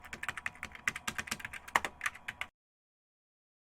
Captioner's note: keyboard typing